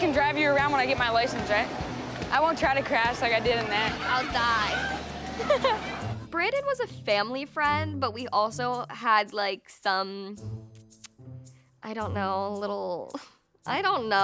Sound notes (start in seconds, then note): 5.4 laughs